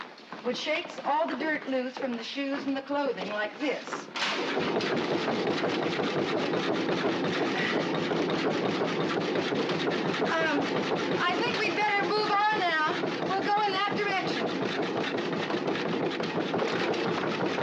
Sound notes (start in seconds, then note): 4.6 crate rumbling; 14.7 rumbling continues